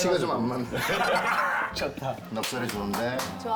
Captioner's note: giggles